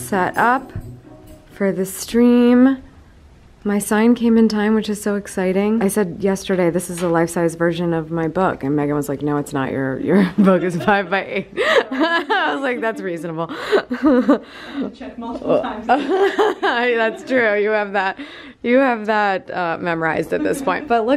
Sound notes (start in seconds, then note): 11.5 both giggle; 13.4 giggles; 16.0 laughing